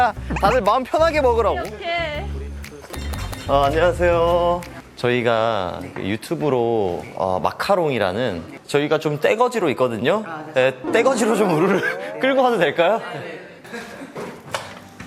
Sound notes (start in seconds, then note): 8.6 crowd